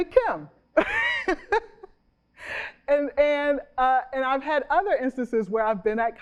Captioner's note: chuckles